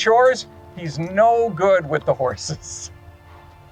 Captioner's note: chuckles